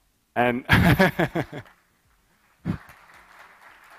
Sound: laughs

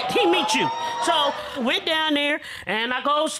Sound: audience cheering

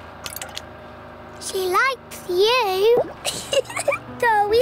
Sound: giggles

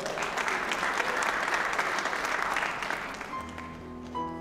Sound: applause; applause, cheering

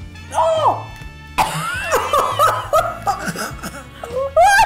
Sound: coughs, choking

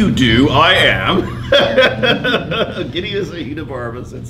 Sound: laughs

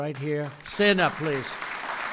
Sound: applause

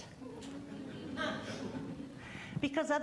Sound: audience laughing

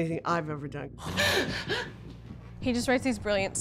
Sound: gasping

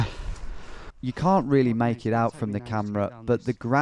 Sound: voiceover

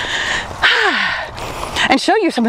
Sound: exhales

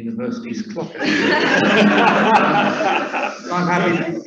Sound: laughing

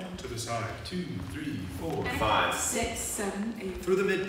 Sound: voices

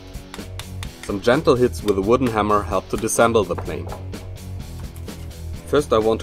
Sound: tapping

